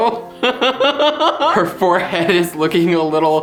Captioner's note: laughs